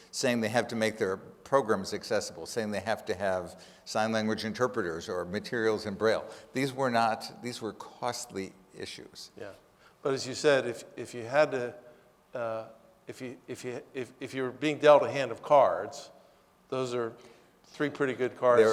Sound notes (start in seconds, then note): none